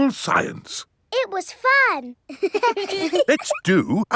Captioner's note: children laughing